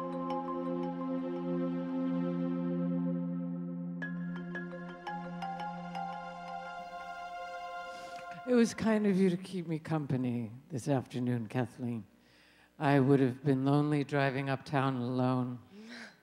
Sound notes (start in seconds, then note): 8.0 Mrs. Tyrone speaking